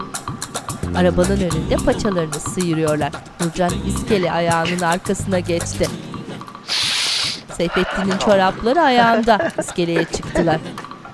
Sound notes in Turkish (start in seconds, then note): 0.0 Müzik - Duygusal; 6.6 Nefes sesi; 8.9 Gülme sesi